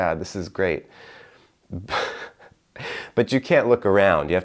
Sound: laughing

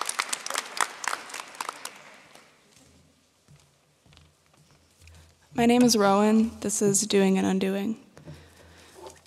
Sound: applause

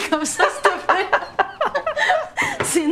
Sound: both laughing

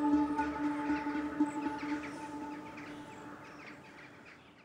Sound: birds chirp

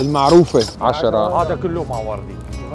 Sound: chatter

